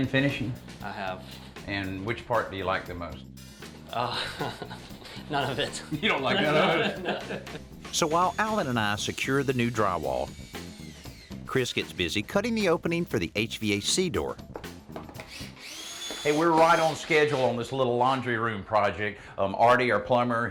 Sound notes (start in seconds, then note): 3.9 laughing